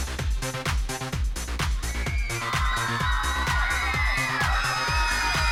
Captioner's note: screaming